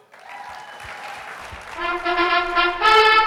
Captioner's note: audience applauding